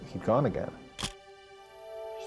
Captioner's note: camera shutter click